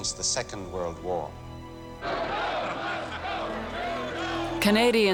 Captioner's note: chanting